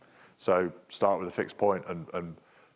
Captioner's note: speaks faintly